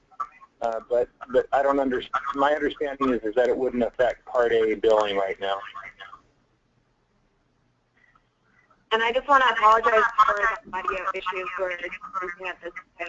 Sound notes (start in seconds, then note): 8.4 voiceover